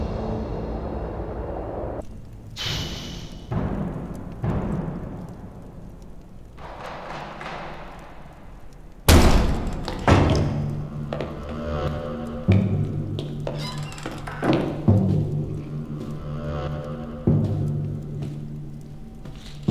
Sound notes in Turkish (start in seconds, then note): 9.0 Kapıya tekme sesi; 12.5 Müzik - Gerilim